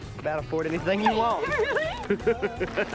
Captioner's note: laughing